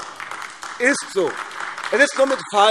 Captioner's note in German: Beifall AfD